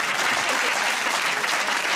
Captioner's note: laughter and applause